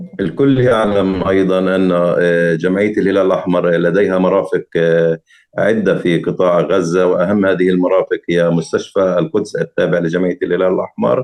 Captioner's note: speaking arabic